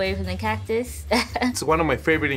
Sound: laughing

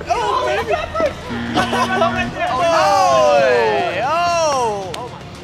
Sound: buzzer

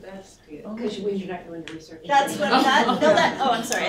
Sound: laughter

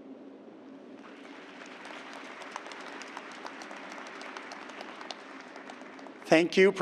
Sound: applause

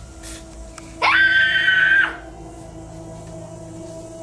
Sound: Georgie screams

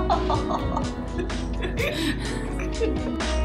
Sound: laughter

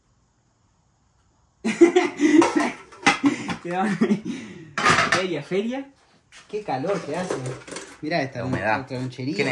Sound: laughs

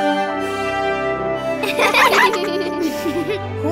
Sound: giggling

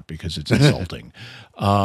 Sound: laughter

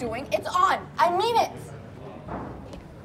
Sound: none

